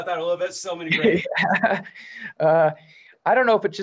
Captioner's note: laughs